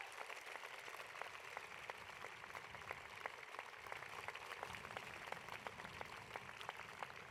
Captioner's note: applause